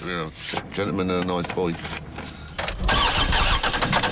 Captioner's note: engine turning